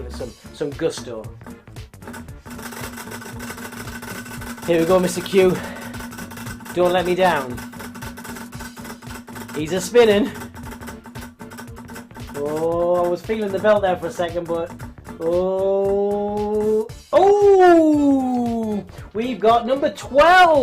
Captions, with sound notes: because I'm going to give it some gusto. (wheel clicks) Here we go, Mr. Q. Don't let me down. He's a-spinning. Oh, I was feeling the belt there for a second but oh, ooh, we've got number 12.